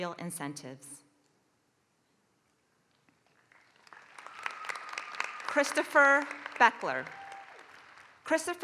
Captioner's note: applause